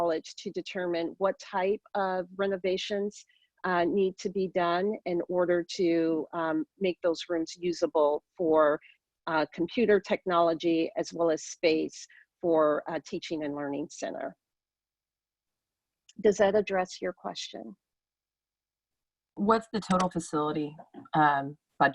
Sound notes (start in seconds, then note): none